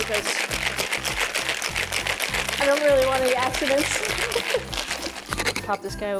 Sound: laughs

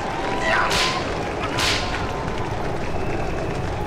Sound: whip cracking

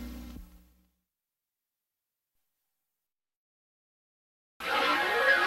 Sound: silence; analog synthesizer swirling sounds continuing

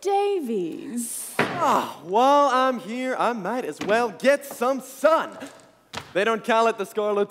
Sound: door slams open

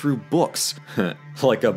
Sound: scoffs jockishly

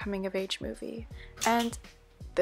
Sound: snaps

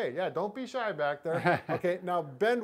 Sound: laughs softly

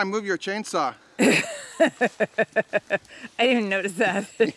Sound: laughing

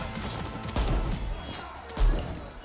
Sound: gunshot firing

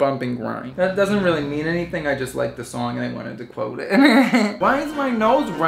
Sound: laughing

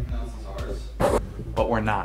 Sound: camera scrapes

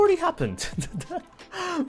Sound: laughs

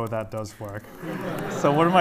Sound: laughter

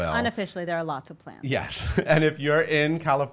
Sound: laughing

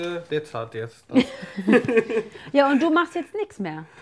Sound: both are laughing

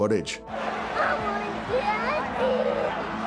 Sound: sobbing

